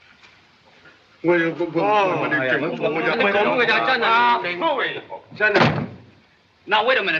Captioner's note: speak Chinese